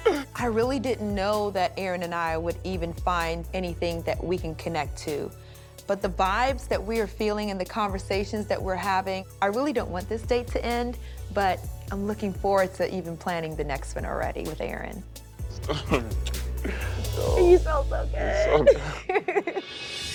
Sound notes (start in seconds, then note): 15.6 chuckles; 18.3 laughs